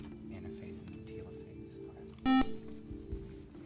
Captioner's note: buzzer